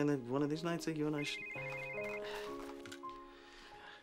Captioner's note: cell phone rings